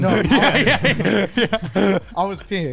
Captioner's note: laughing